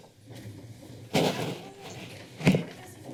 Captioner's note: heels clacking; rustling; mic rustling